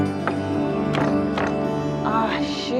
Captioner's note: hand bangs